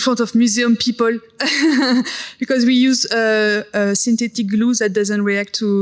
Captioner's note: laughs